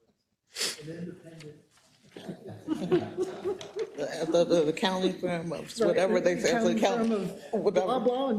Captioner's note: laugh